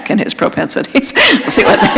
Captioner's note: laughter; chuckle